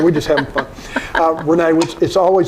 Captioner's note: laughing